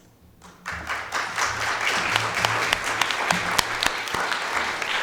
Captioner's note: audience applauding